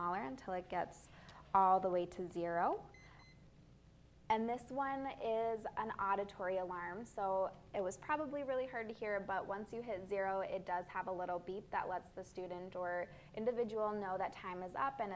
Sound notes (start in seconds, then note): 2.9 beep